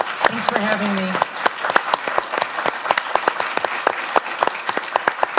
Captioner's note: audience applauds